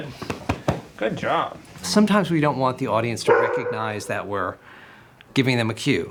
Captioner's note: narrating